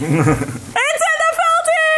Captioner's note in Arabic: يضحك